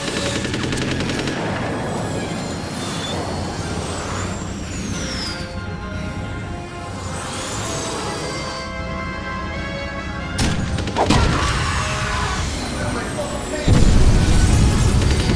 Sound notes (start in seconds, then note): 1.2 grumbling of tyres and hissing of jetpacks; 3.4 hissing of jetpacks; 10.3 fwomp; 10.8 explosion and scream; 13.6 boosh; 14.6 more gunfire